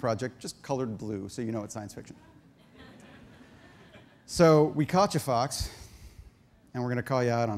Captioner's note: audience laughter